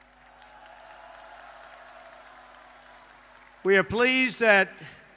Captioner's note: applause